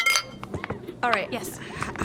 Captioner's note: glasses clink in a toast